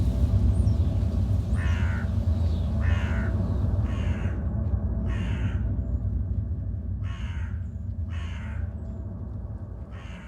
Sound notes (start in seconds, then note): 2.8 crow cawing